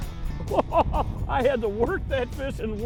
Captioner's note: laughter